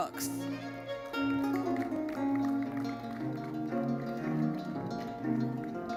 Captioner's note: audience applauding